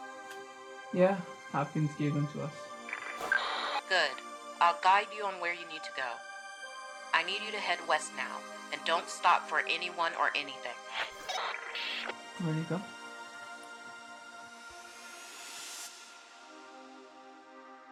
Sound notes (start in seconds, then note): 10.9 radio bleep and static